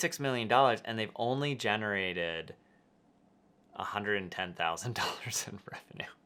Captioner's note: laughing